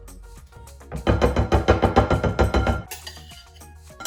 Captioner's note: banging